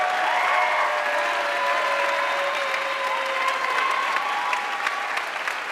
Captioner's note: audience cheering and applauding